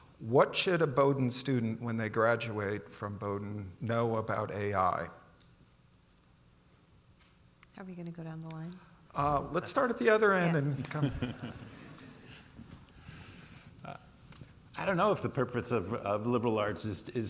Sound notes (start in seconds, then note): 10.6 panelists chuckle